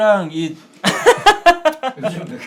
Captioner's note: laughing